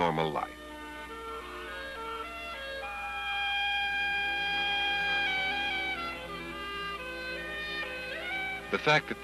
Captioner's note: music, Geese Honking